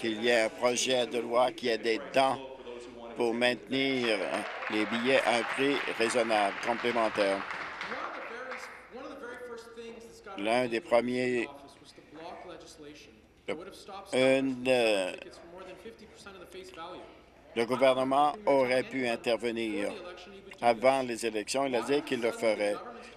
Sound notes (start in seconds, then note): 10.0 applause